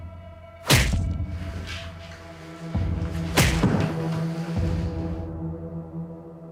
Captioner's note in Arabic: صوت نبضي